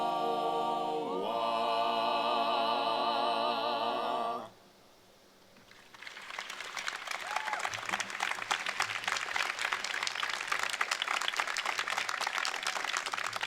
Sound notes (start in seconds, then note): 5.7 crowd applauding; 6.0 crowd cheering